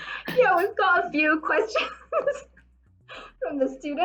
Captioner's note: laughing